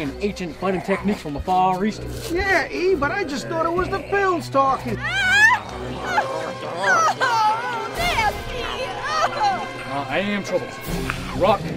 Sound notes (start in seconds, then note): 4.6 Betty whimpering